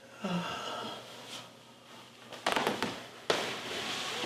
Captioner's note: Scott groaning